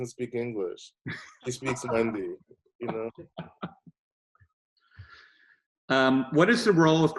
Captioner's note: laughing